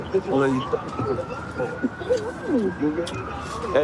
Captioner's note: kissing noises